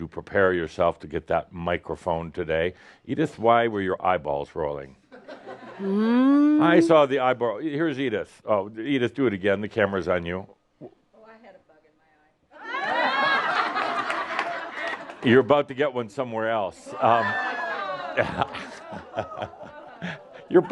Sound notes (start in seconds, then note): 5.0 some chuckles; 12.6 laughter; 17.2 more laughter and audience says “Ohh!”